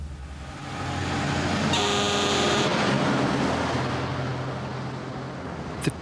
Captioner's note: truck revving and honking